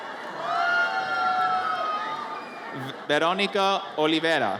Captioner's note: audience cheers